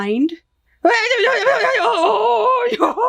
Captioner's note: screaming